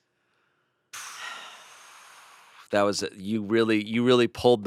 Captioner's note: sighs; exhales